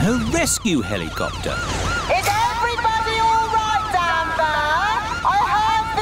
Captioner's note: over megaphone